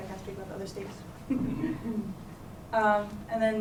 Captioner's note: chuckling